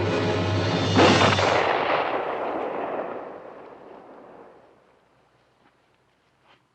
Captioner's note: gunshot